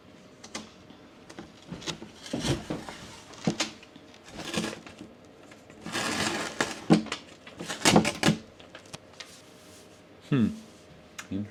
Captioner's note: peeling plastic and tape sounds